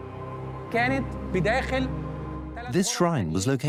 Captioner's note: in Arabic; dubbed in English